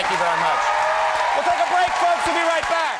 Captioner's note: audience cheering